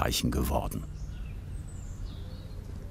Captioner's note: birds chirping